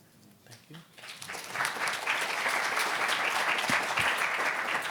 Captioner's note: applause